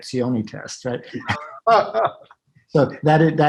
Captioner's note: laughs loudly